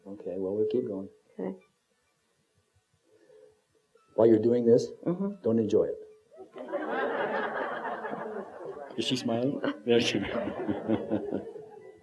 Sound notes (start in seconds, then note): 6.4 laughter; 10.1 chuckles